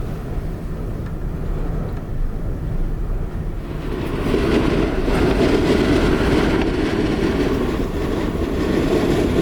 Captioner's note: wind noises